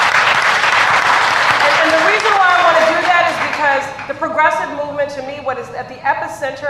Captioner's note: applause